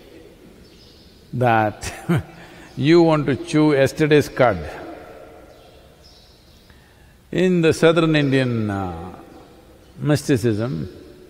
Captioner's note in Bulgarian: Смее се